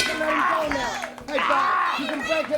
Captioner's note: bell ringing; crowd chatter